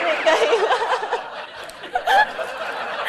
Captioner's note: laughter